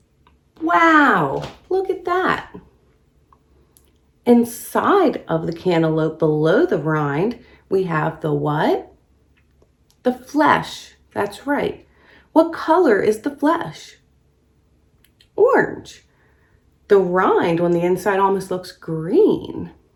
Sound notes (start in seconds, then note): none